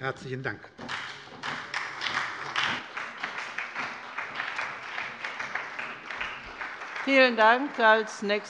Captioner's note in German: Beifall bei der SPD